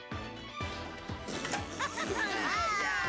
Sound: blowing; cheering, laughing

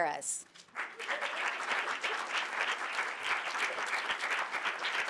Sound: audience applauding

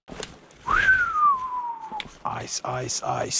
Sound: whistles

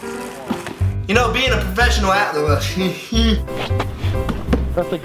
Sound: mutters

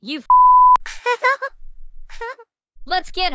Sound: crying

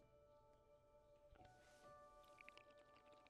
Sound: slurping

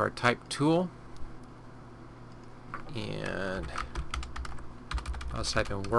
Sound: typing

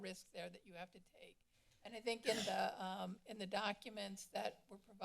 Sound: coughing

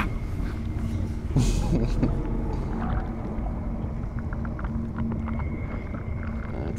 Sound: unsettling music; water sloshing

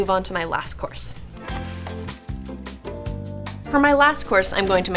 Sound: bright music; water splashes

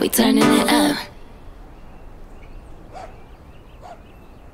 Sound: dog barking

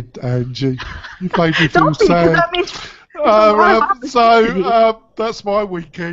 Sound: laughs

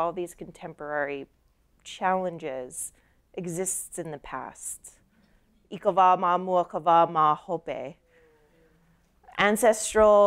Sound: speaking her language

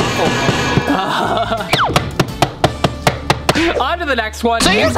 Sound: banging the waffle iron

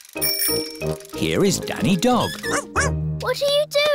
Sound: bell ringing

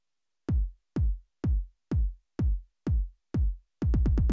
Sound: rhythmic beating

